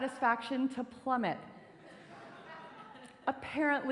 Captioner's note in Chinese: 笑聲